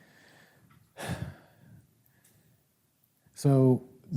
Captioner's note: sighs